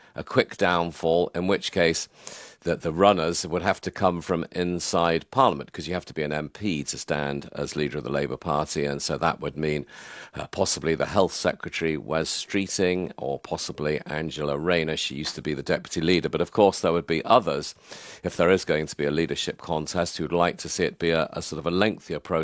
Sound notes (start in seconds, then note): none